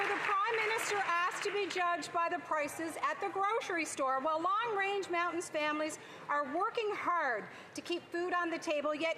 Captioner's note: applause